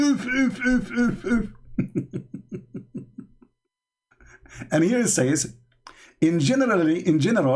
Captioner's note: Ketawa